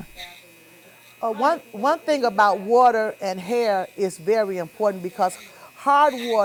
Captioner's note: sound of razor buzzing